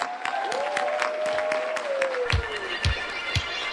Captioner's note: applause